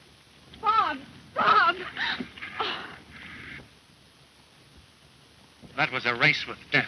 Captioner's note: gasps